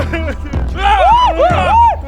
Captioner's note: sobs; scream™